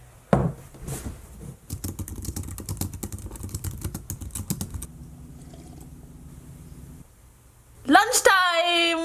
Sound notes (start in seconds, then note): 1.7 keyboard clacking; 5.0 sips coffee